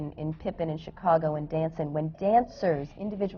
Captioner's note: none